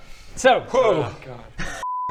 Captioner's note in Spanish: 5 suspiros de alivio